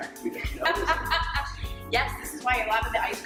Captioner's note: laughing